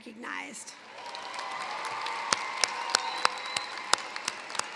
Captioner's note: cheering, applause